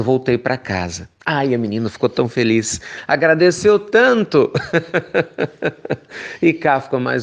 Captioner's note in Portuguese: risos